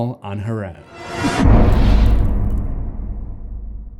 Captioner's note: impact